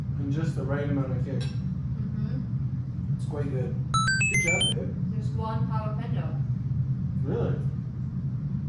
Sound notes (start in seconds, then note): 3.9 one up sound